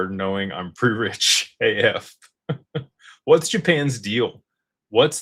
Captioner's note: laughter